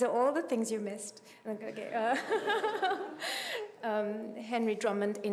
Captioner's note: laughing